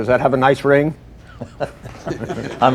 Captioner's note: laughter